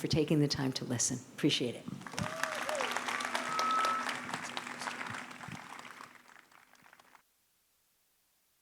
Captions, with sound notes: for taking the time to listen. Appreciate it. (audience applauds)